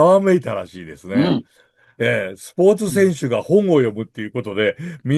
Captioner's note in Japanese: 咳払い